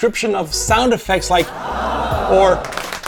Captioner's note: ahhh; clap Clap Clap